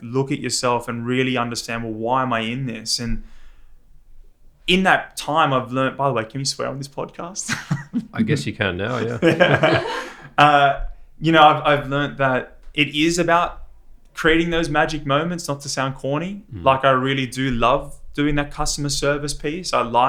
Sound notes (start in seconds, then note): 8.8 laughs; 9.1 people laughing